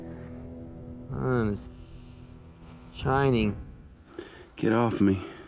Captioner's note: mutters